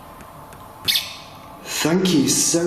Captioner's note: metre beeping